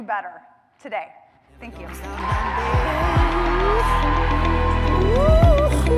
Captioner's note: applause, cheering